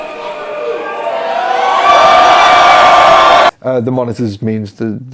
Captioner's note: audience cheering